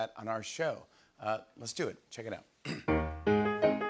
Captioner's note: clears throat